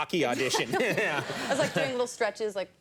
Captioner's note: laughter